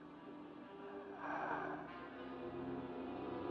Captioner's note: Gustaf exhales; suspenseful music